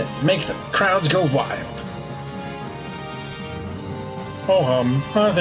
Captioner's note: none